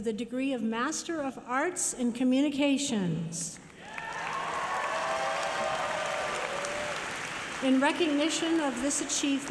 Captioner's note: applause